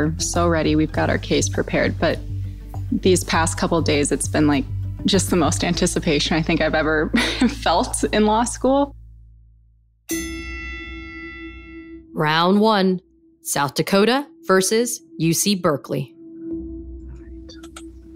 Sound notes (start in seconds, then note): 10.1 boxing ring bell